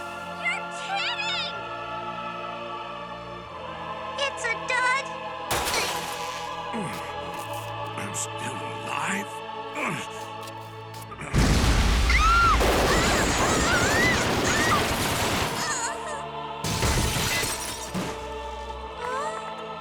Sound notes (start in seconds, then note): 6.6 grunts; 11.3 explosions; 12.0 shrieks